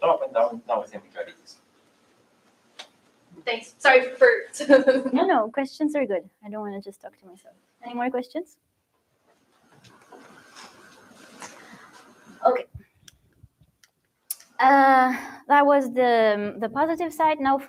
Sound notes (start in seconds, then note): 4.3 laughs